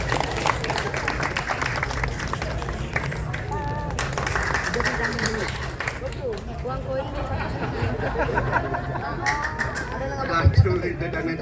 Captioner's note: applause; laughing